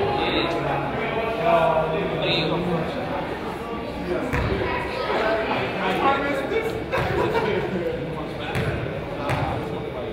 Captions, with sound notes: (crowd chatters) - Time is this (laughs)?